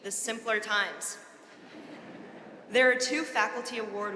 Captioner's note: audience laughing